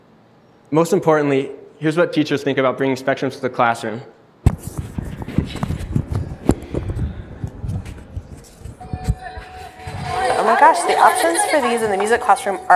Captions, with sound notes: Most importantly, here's what teachers think about bringing Specdrums to the classroom. [children chattering] - Oh my gosh, the options for these in the music classroom